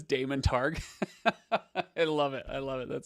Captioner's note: laughs